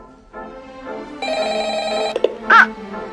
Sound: phone rings

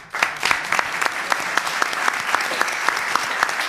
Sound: applause

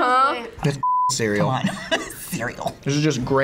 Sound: laughs

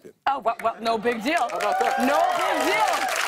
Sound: cheers and applause

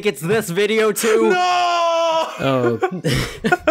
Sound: laughing

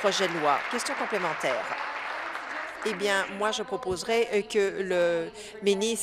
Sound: applause

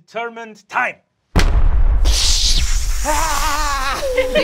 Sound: loud thunder clapping

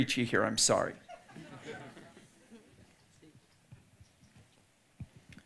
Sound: audience laughing

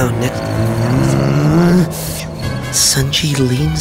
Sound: Dad grunting

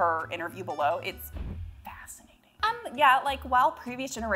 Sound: confetti poofs

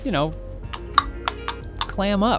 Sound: snapping

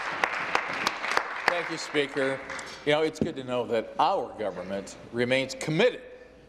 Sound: applause

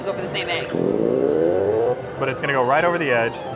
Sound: machine zips

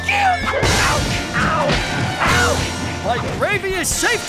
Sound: punches thud

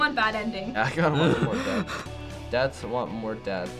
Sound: chuckles

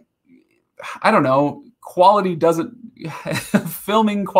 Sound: laughing

